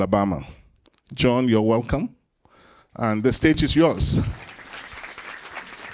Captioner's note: applause